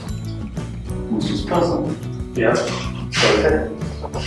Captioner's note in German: lacht